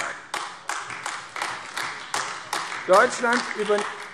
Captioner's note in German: Beifall AfD